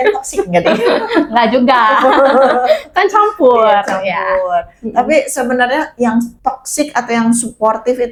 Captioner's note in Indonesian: tertawa